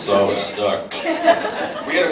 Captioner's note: laughs